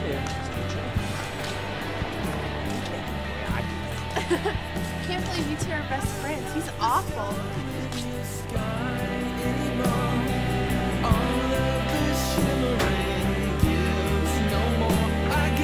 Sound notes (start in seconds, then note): 3.8 laughs